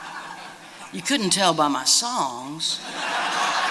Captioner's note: laughter